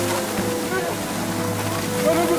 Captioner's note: In-ho’s pained groan